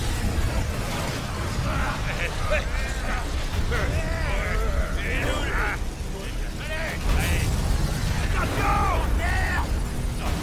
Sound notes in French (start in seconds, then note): 3.7 les motards crient; 7.2 une explosion gronde